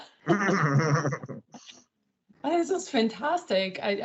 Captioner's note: laughs loudly